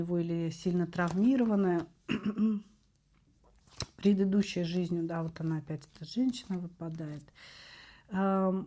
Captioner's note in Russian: откашливается